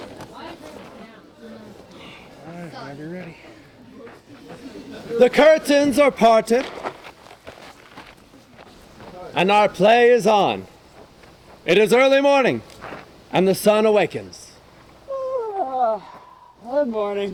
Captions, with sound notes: All right, be ready. The curtains are parted. And our play is on. It is early morning, and the sun awakens. (Yawns) Good morning.